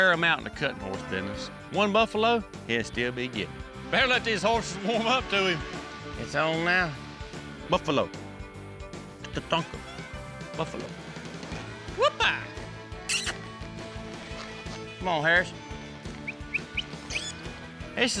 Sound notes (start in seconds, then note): 13.0 makes squeaky sound; 16.2 whistling